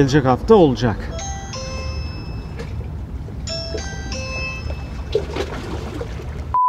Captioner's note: door bell